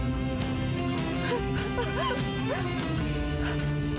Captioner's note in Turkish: Ağlıyor